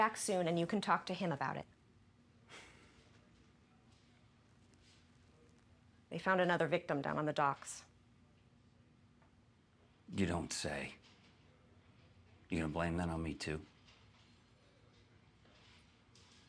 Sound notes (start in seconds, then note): 2.6 John sighs